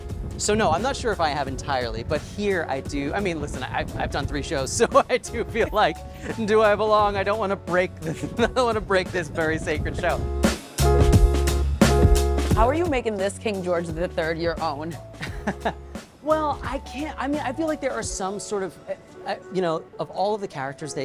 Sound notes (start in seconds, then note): 10.3 upbeat music; 15.2 laughs